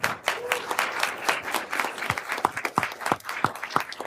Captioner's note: everyone applauding